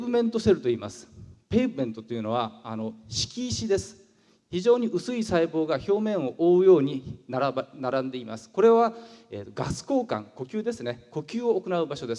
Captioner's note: breathing